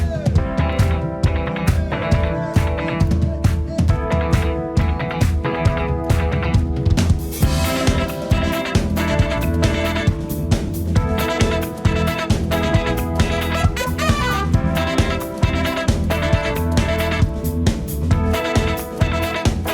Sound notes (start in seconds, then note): 2.0 audience members clapping; 2.0 upbeat band music